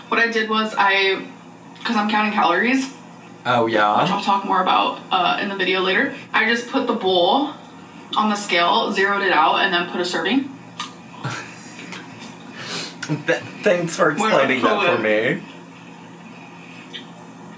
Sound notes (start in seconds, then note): 11.2 laughs